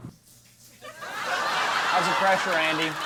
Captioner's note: audience laughing